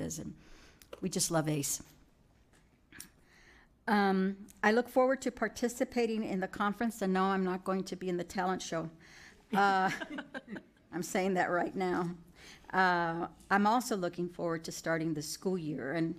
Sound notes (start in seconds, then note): 9.8 audience laughing